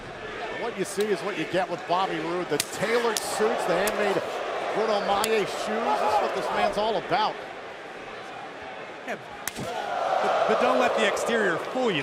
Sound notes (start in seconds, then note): 9.4 crowd cheering